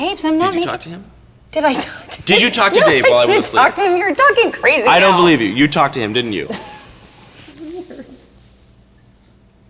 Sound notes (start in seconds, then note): 1.8 laughs; 7.4 Marguerite laughs